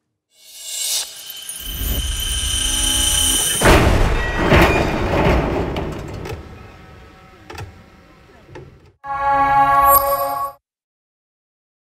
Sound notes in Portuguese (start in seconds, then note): 0.4 som de máquina acelerando; 2.6 barulho do carro caindo